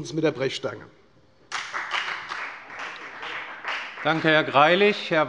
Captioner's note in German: Beifall bei der FDP